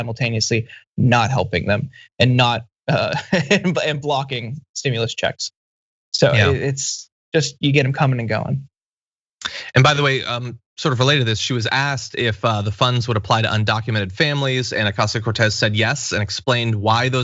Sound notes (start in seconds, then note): 2.9 laugh